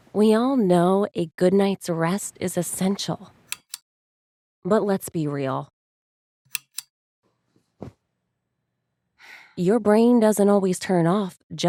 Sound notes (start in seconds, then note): 3.5 light switch clicks; 6.5 light switch clicks